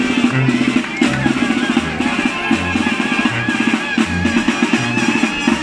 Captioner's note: an irrintzi is heard in the background